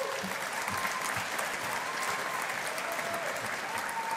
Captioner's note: audience applauding